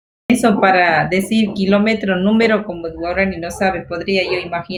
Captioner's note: speaking foreign language